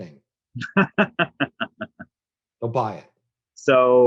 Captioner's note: laughs